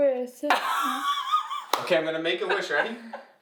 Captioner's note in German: Mama kichert